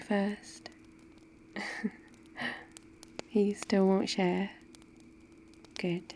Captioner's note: laughs